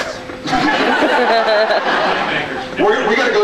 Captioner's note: laughs